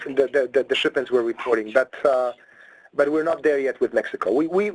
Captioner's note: people whispering